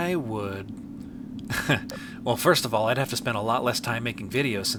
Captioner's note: chuckles